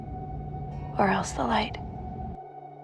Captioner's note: voiceover